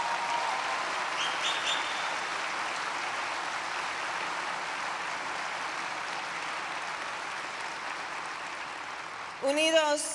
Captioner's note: applause